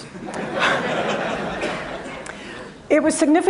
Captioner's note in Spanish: Risas